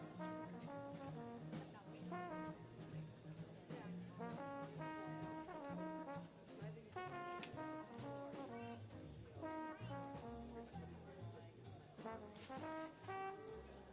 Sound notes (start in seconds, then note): 4.4 people chattering; 4.4 upbeat jazz music continues